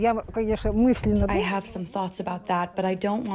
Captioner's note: through translator